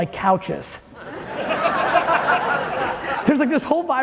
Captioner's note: audience laughing